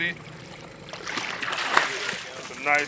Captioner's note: fish splashing